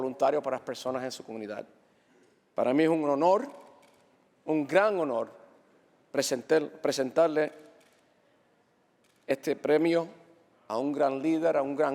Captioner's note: speaking Spanish